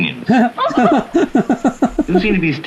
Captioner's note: gasps